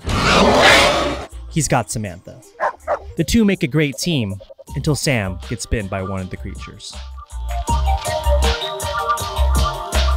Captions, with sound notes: (roaring) He's got Samantha. (barking) The two make a great team. Until Sam gets bitten by one of the creatures. (upbeat music)